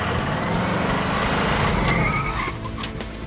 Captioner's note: brakes squeal